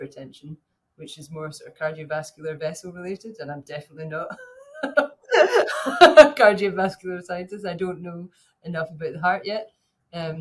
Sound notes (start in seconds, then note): 5.2 laughing